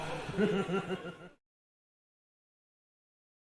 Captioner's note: laughing